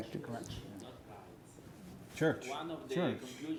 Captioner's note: attendee chattering